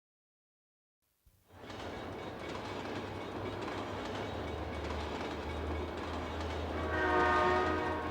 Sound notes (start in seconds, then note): 1.8 train ringing and clanking